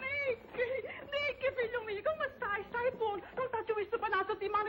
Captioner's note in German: spricht spanisch